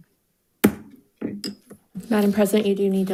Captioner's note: gavel thwacks softly